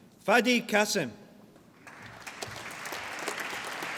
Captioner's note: applause